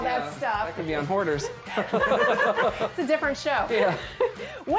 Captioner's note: laughter